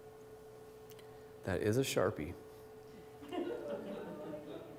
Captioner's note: laughter, groaning